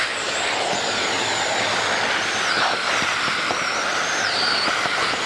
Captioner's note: vacuum cleaner buzzes